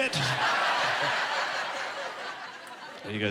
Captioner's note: laughing